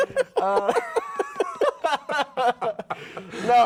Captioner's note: laughing